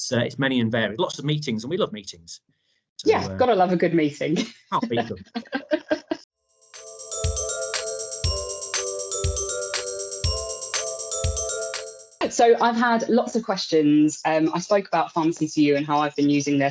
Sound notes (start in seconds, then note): 4.8 they laugh; 6.6 upbeat music